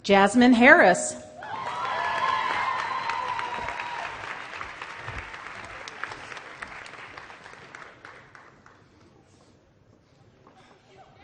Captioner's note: applause